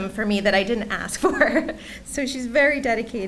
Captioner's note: laughs